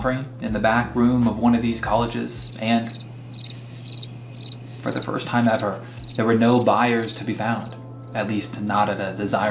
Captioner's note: crickets